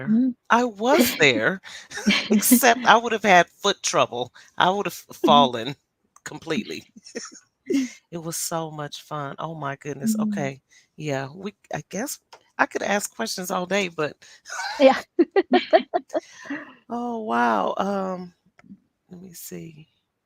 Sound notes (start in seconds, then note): 14.4 laughs